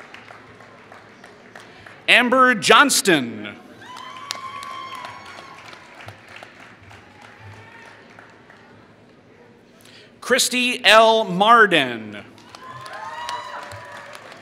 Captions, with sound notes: Amber Johston [Applause] Christie L. Mardin [Applause]